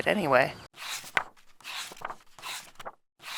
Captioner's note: pages turning